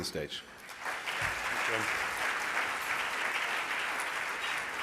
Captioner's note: applause